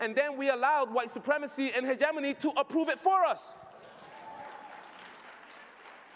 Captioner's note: applause